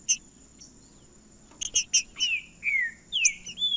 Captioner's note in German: trinca ferro cantando